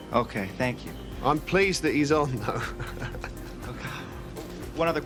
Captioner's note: chuckles